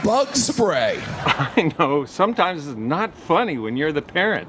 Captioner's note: chuckles